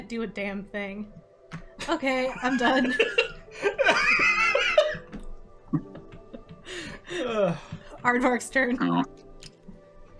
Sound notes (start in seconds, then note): 2.4 laughs